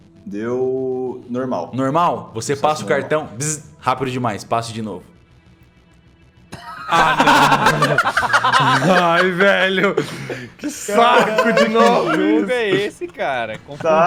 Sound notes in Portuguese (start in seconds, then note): 3.4 bzzzz; 6.5 Risadas